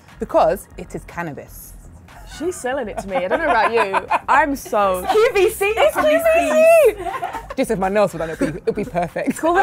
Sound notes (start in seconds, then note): 3.9 laughs; 7.0 murmurs